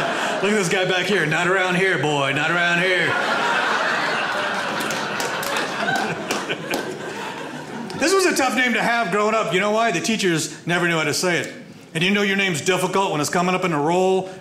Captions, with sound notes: Look at this guy back here, not around here, boy. Not around here. (audience laughs) This was a tough name to have growing up. You know why? The teachers never knew how to say it. And you know your name's difficult when it's coming up in the roll,